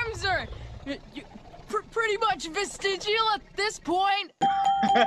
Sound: stutters; laughs

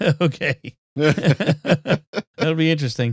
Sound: laughing

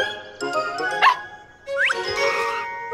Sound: barking

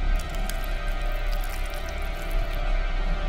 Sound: feeding sounds

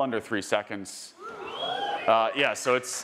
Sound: attendees cheering and applauding

